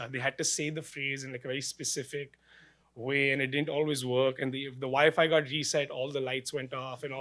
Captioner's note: none